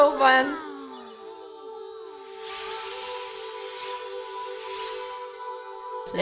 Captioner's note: sparkly princess noises